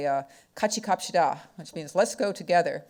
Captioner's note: speaking foreign language